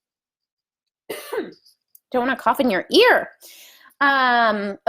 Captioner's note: coughs